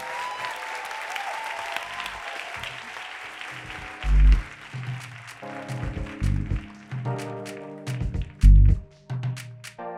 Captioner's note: applause and cheers